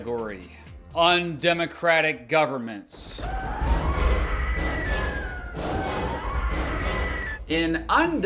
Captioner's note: scary sound effects